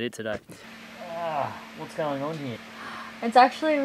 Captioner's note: groans